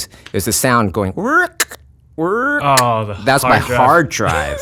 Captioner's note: mimicking computer sounds